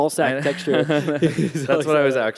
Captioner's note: laughter